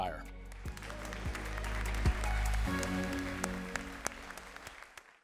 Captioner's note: all applauding